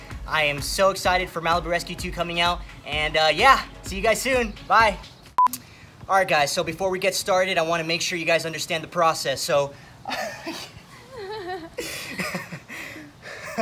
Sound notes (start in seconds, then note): 10.1 laughing